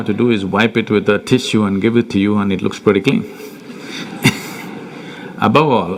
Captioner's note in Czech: smích